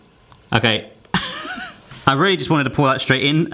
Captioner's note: laughing